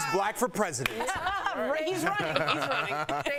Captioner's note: laughter